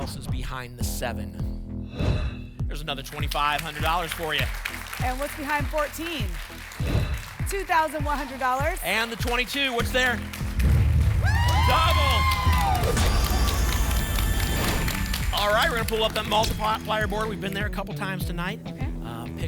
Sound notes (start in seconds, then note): 10.4 rumbling sounds; 12.5 whoosh; 13.2 boom; 14.0 applause and cheering